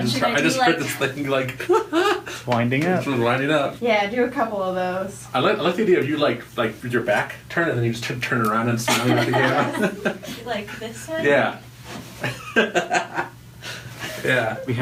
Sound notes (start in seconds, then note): 1.6 laughing; 8.9 laughs; 13.5 laughs